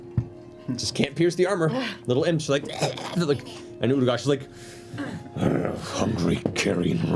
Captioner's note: snarls